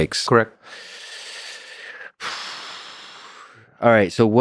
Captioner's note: Lex sighs